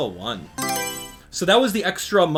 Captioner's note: Mario Selection Sound